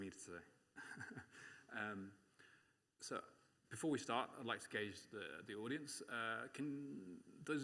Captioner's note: laughs